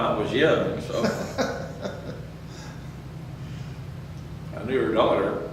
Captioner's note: laughs